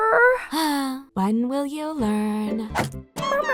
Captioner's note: salt sighs